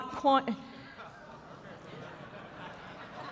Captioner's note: laughter